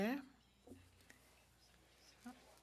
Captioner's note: speaking FRENCH